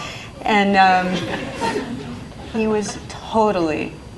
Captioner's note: laughing